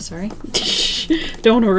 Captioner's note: laughs